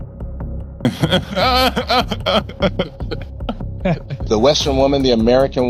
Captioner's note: laughter